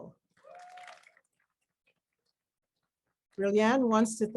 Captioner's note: crowd cheers